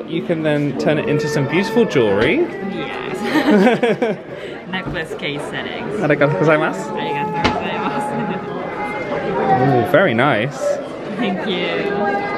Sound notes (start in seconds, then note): 3.2 laughing; 7.5 speaks Japanese